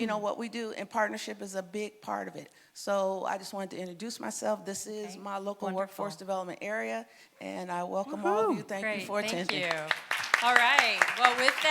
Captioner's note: applause